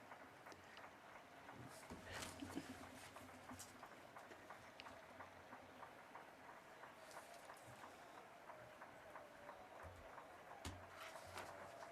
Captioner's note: some Applause